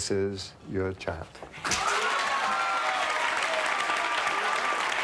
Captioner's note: audience applauds